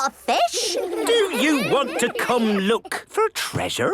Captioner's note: children giggling